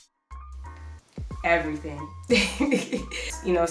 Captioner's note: laughs